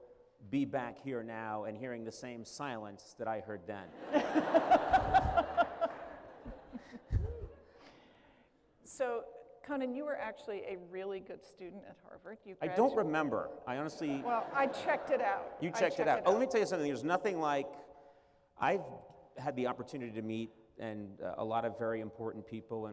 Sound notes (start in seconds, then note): 3.9 laughter